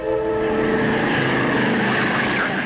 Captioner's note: engines roaring